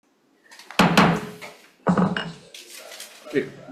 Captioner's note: chair hitting gavel